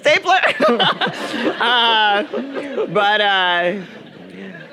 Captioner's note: audience laughing